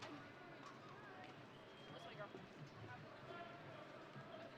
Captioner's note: none